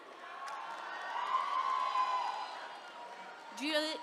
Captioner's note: attendees cheering